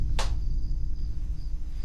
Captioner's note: GUARD slaps leg